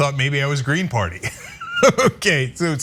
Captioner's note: laugh